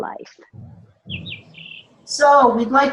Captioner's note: birds chirp